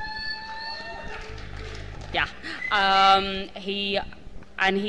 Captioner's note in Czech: potlesk